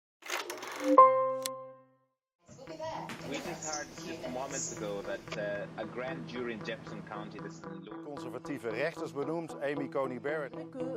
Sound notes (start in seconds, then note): 0.2 reel winding; 8.0 man speaking in foreign language; 10.7 woman speaking in foreign language